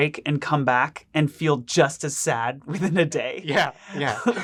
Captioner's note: laughs